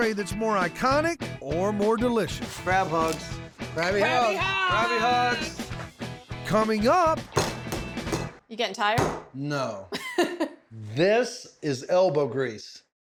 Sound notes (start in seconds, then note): 7.2 pounding sound; 9.9 laughs